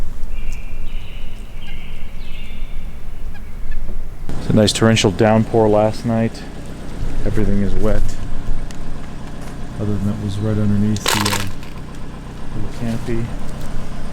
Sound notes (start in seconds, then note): 0.2 birds chirping; 8.6 car engines rumbling